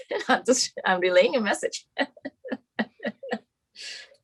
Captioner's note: laughs; laughs